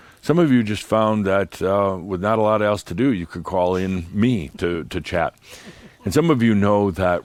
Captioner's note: giggles